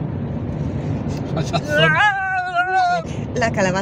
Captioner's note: turbulence